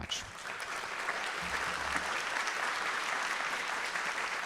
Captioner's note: audience applauding